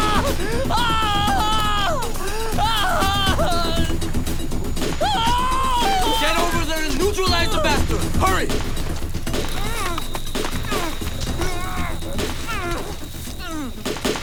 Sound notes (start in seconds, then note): 0.0 screaming; 11.8 gunshots